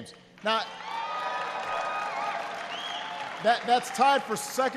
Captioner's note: applause